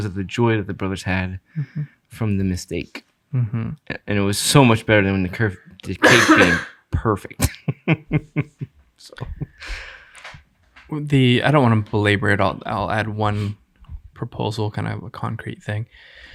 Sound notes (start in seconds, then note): 7.4 laughing